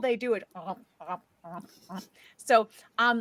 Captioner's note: chomps